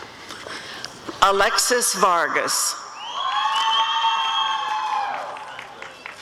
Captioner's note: applause and cheering